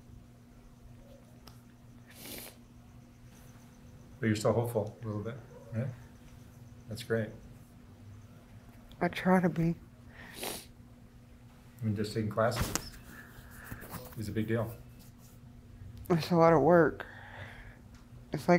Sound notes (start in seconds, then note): 2.1 sniffling; 10.1 sniffling